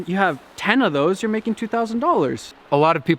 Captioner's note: none